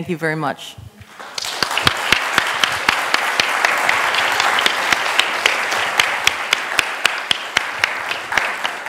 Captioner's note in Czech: potlesk